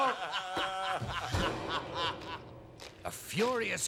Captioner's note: all laughing